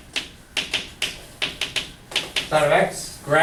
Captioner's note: chalk clicking on board